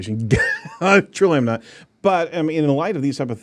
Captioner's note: laughs